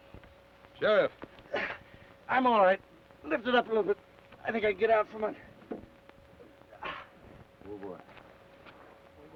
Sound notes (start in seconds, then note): 1.8 grunts